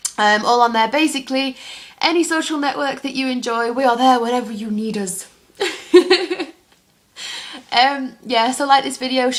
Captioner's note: laughs